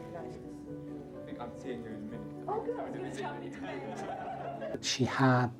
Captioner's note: everyone laughs